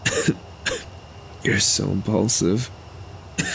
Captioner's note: coughs